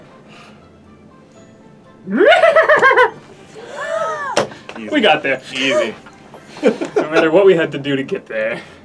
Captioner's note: loud horse whinny